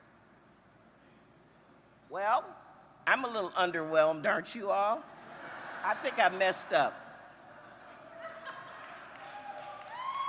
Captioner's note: applause